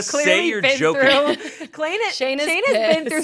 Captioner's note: laughs